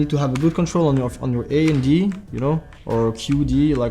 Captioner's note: keys